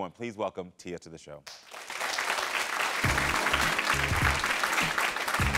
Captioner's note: audience applauding